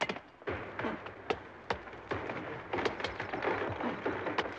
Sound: trees crunching

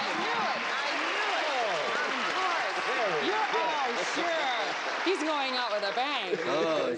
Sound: applauding

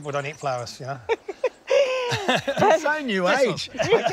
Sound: both laugh

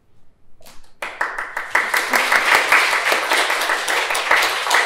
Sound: applause

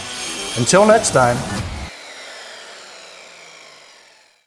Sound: saw whooshing

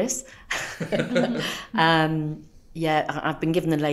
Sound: laughs

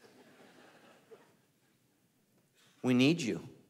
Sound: congregation laughing

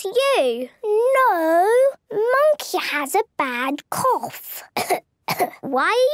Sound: pretending to cough

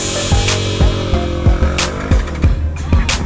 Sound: gears grinding

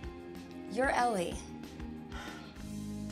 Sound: sighs

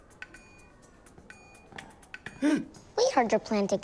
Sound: gasps

